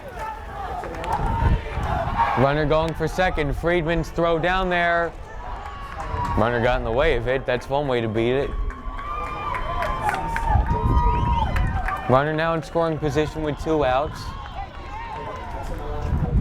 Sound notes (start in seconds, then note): 9.6 crowd cheers